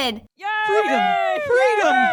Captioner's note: Israelites cheering